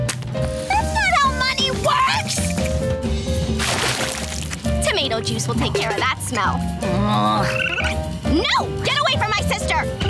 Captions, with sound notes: That's not how money works! Tomato juice will take care of that smell. [groaning] No! Get away from my sister!